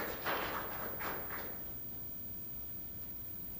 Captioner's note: applause